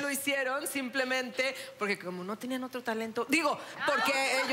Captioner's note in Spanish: En voz baja